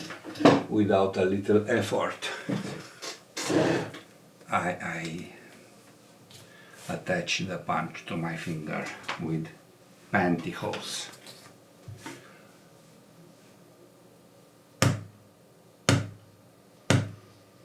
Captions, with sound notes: without a little effort. I attach the punch to my finger with pantyhose. (hammering)